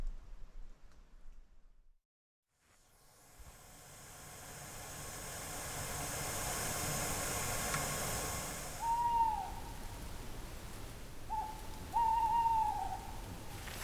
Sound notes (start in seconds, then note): 0.2 silence; 4.4 water boiling; 8.5 owl hooting; 11.2 owl hooting